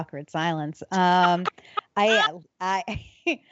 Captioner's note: laughing